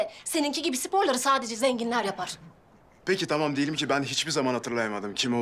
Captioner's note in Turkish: none